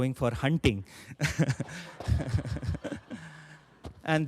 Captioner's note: laughter